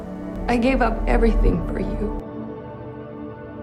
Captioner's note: voiceover